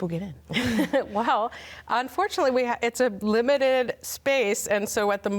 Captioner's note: laughs